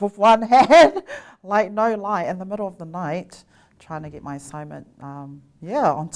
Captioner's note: laugh